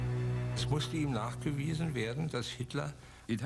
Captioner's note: speaking in German